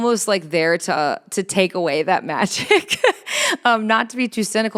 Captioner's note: chuckles